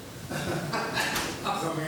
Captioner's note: laughs